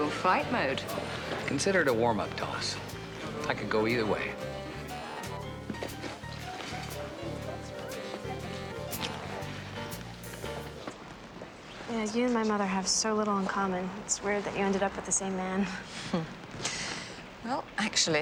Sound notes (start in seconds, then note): 0.4 laughs; 7.0 chuckles; 9.6 jazz playing, indistinct chatter